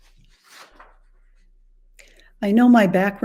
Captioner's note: papers clattering